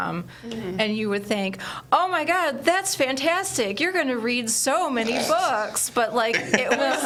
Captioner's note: everyone laughs